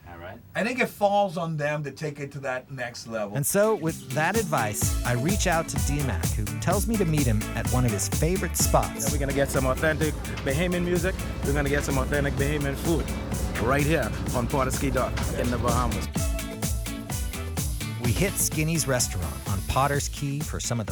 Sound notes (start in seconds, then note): 3.6 voiceover; 18.2 voiceover